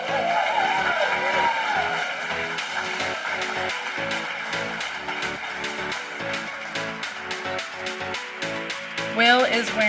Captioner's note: applause and Music